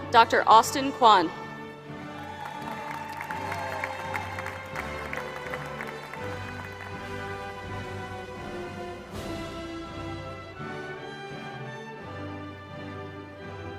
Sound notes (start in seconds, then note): 2.1 applause